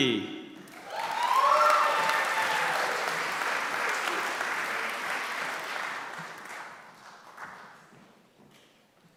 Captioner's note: applause